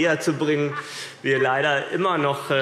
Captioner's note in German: Heiterkeit und Zurufe